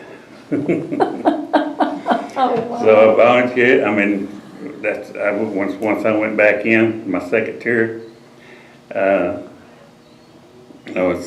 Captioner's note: laughter